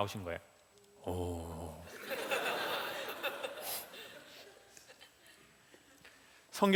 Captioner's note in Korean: 웃음